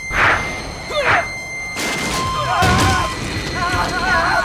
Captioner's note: stan screaming